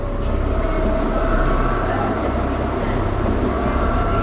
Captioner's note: fast train sounds